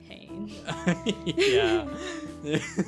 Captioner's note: laughs